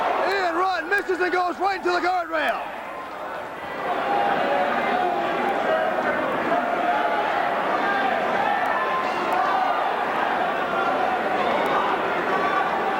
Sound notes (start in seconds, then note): 4.2 crowd chatter